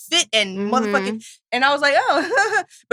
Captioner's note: laughs